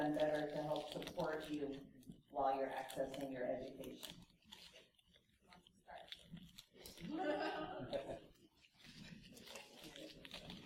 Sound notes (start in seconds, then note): 7.0 laughter